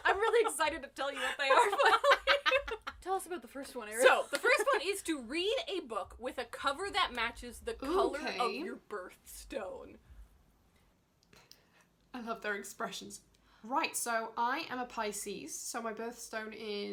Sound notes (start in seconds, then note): 1.2 laughs; 12.3 does impression